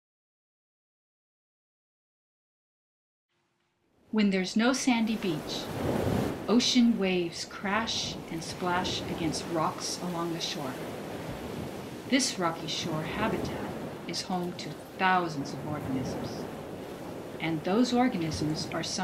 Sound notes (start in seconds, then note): 4.1 tidal sounds begin